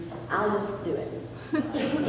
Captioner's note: laughter